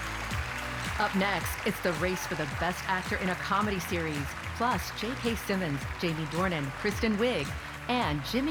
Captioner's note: cheers and applause